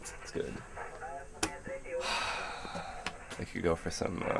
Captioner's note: sighs